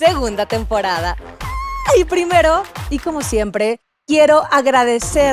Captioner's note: cute squeal